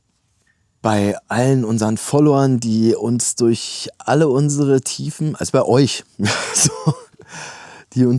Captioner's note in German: gelächter